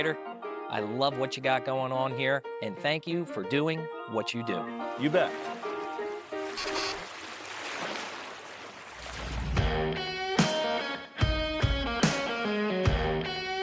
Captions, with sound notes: I love what you got going on here and thank you for doing what you do. - You bet. (water waves moving) (upbeat music playing)